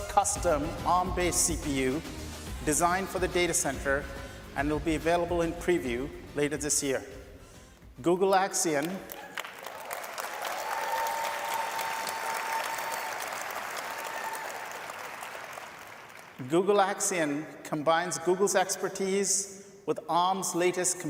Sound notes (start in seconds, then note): 16.4 cheers and applause